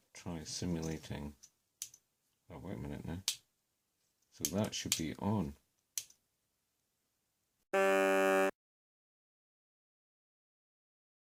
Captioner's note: horn sound